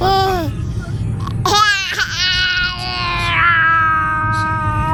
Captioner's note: squeals and laughs